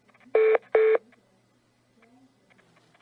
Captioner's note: hold beep beeps